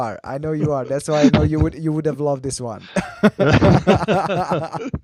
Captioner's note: laughs